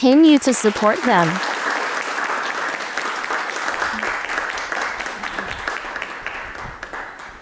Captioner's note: applause